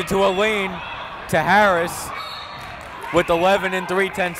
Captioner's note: whistle blowing